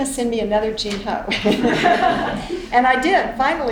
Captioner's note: all laughing